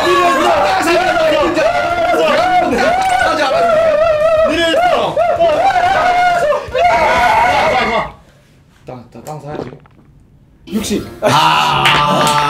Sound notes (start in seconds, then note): 9.4 swallow